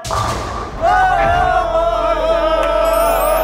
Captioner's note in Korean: 오열